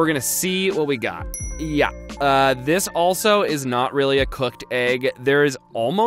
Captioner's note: dings